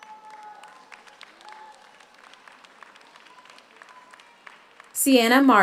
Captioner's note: audience cheers; audience applauds